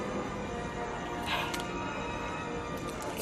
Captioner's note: sighs